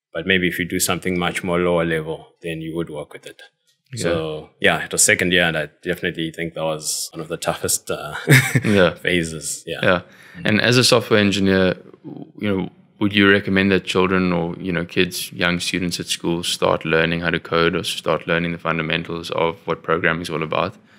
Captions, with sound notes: But maybe if you do something much more lower level than you would work with it. So, ja, it was second year and I definitely think that was one of the toughest [laugh] phases. And as a software engineer, would you recommend that children or kids, young students at school, start learning how to code or start learning the fundamentals of what programming is all about?